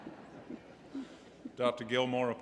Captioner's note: laughter